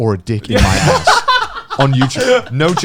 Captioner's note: laughing loudly